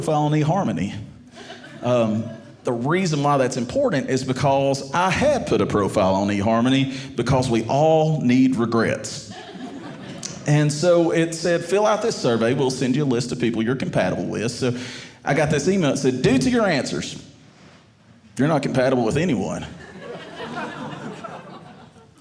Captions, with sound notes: on eHarmony. The reason why that's important is because I had put a profile on eHarmony because we all need regrets. (audience laughing) And so it said, fill out this survey. We'll send you a list of people you're compatible with. So I got this email that said, due to your answers, you're not compatible with anyone. (audience laughing)